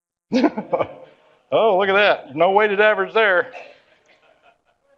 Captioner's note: laughs